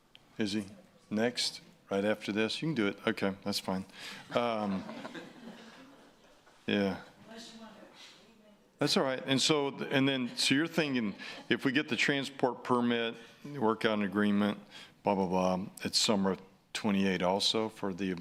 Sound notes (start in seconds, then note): 10.8 laughing